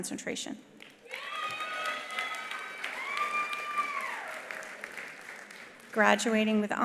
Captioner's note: attendees applauding; attendees cheering